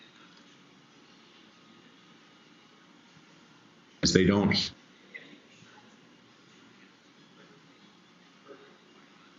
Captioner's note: silence